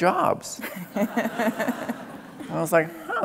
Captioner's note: laughing